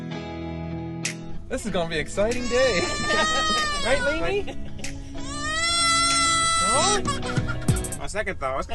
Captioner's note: toddler is screaming